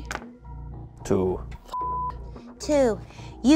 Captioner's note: beep